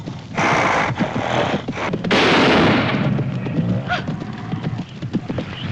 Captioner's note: gasps; snorting